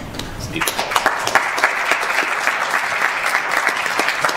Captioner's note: applause